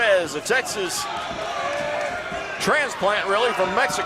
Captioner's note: crowd yelling